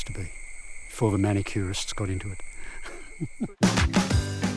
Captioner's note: laughs